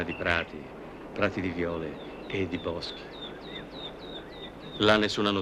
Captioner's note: bird song